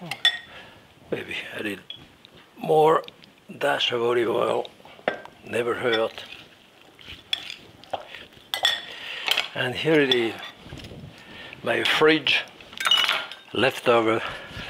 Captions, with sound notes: Maybe a little more dash of olive oil, never hurt. (spoon clinking) And here it is, my fridge leftover salad.